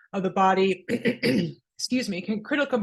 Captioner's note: coughs softly